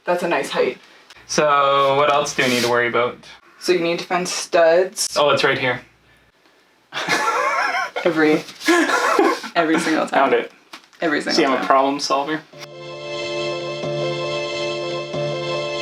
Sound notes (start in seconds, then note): 7.0 laughing; 12.5 cheerful music